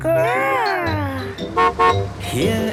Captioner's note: horn honking